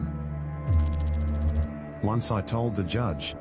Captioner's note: electrical noise